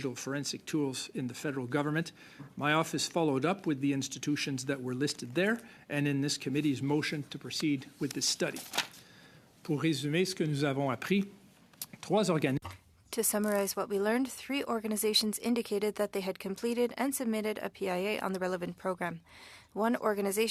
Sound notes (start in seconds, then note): 15.3 speaking French